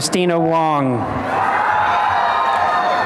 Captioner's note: cheering and applause